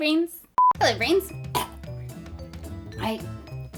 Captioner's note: cough